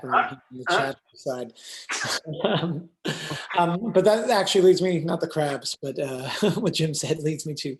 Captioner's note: laughter